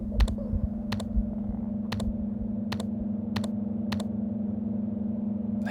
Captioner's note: keyboard sounds